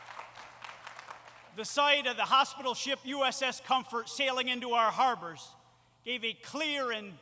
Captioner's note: applause